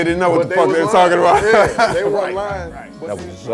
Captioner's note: laughs